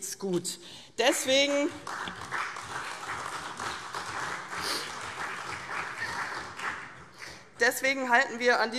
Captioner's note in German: Beifall CDU und vereinzelt BÜNDNIS 90/DIE GRÜNEN